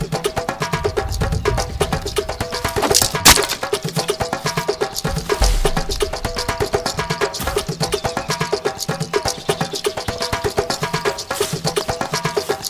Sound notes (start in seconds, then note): 2.7 arrow swooshing and thudding; 5.3 dramatic drumbeat music continues